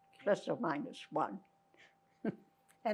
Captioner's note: laughing